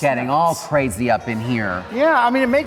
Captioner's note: audience laughs